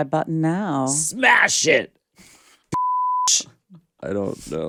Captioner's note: beep